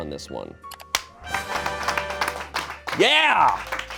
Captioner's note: horn